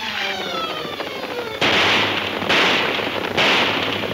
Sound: guns firing

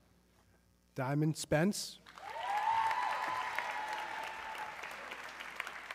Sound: audience cheering

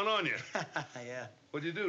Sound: chuckles

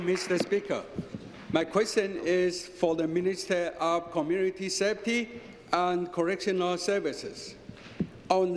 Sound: some Applause

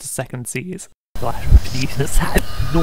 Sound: rewind Sound

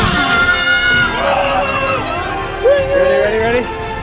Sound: screaming

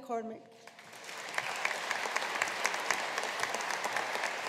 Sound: audience applauding

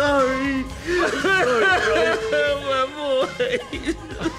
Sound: sobs

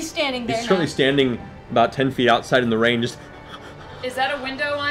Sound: shaky breathing

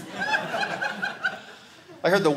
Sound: audience laughing

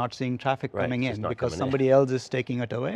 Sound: laughs

